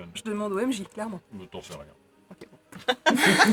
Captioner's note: laughs